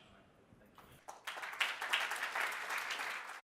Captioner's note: audience applauds